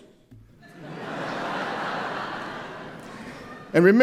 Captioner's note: laughter